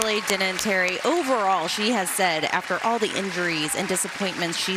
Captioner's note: cheers and applause